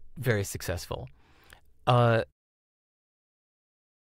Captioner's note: westchnienie